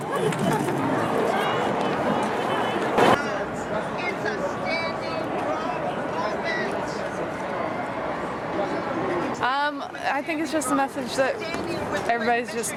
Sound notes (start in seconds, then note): 3.2 background chatter